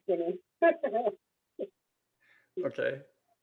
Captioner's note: laughs